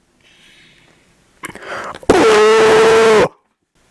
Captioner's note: unholy agonizing screams